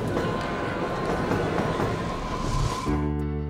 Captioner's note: train approaching